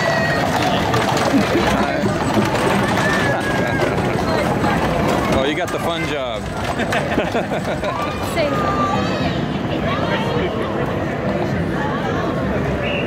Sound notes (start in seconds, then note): 6.6 chuckles; 6.7 man in parade and cameraman both laugh